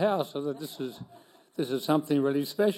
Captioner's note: laughing